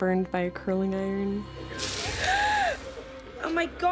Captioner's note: gasps